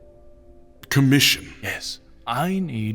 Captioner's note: confused